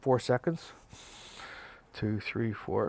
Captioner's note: inhaling